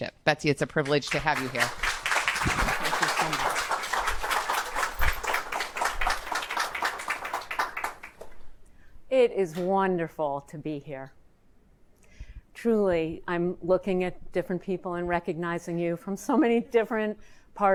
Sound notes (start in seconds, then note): 0.8 audience applauding